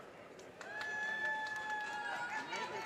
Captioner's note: audience cheers and applause